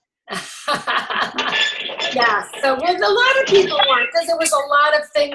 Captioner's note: laughs